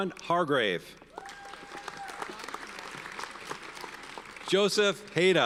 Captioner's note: audience cheers and applauds